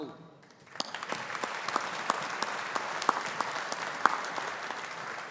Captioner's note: audience applauding